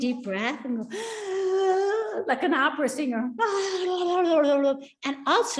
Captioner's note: inhales deeply; babbles